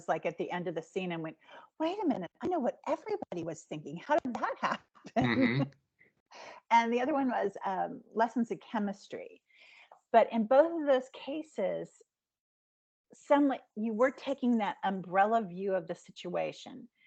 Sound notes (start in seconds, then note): 5.1 laughing